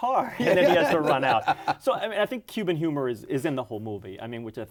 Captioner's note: laughter